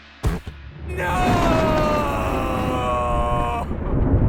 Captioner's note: lightning crashes